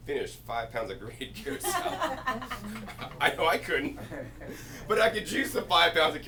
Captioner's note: laughing